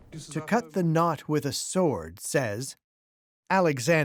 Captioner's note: in German